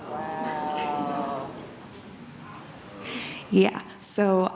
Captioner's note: audience mutters